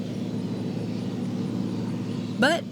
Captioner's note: combine noise